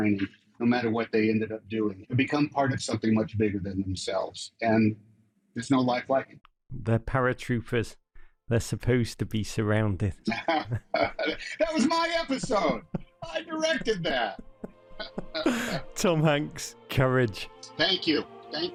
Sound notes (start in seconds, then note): 10.2 chuckles; 14.9 chuckles